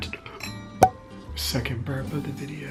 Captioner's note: cork popping